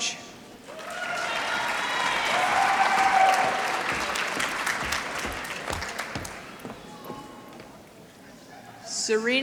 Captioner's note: applause